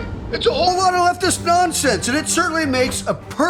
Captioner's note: radio